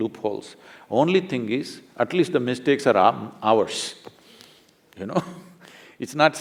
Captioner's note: laughs